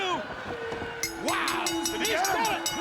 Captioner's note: bell ringing